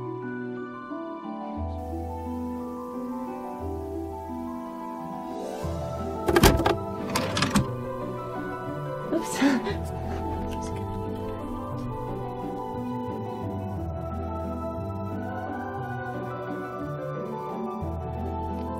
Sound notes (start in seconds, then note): 9.1 laughs; 15.3 mystical light music